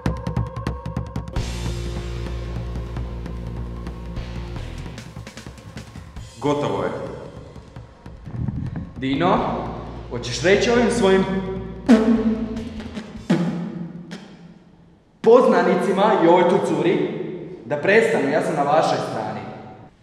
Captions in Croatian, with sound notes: Gotovo je. Dinno, hoćeš reći ovim svojim... *pljuckanje* poznanicima i ovoj tu curi da prestane, ja sam na vašoj strani!